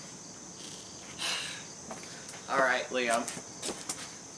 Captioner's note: sigh